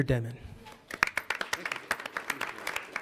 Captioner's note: audience applauds